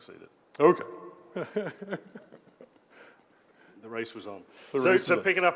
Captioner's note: laugh